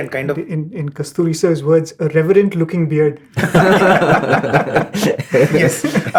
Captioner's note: laughter